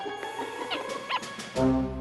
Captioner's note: squeak! Squeak!